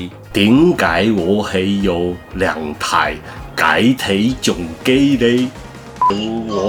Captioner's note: in weird cantonese ascent